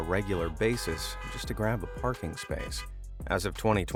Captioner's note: car horns honking